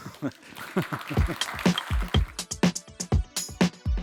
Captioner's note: applause